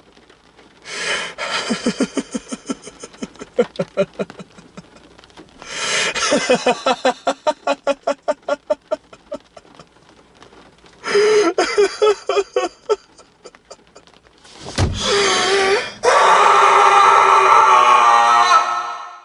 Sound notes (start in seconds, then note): 0.9 laughs then cries; 14.7 slams fist against steering wheel and lets out a shriek